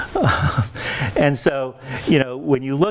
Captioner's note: chuckles